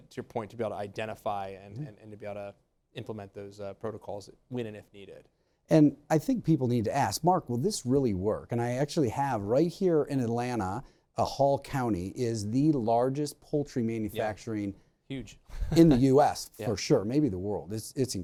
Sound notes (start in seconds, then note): 15.5 laughs